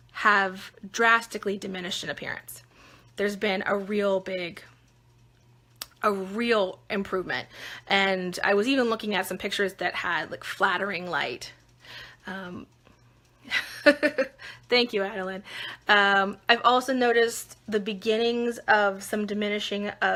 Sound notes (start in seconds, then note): 12.6 laughing